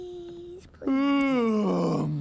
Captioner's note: yawns